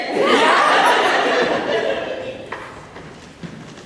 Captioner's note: laughter